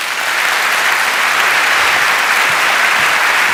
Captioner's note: applause